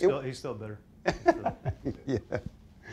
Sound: laughing

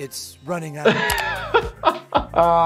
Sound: doctor laughing

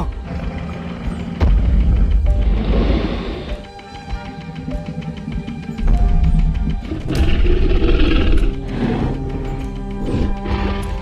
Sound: T-Rex Stomping and Growl Sounds

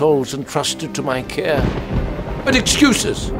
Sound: crack of thunder

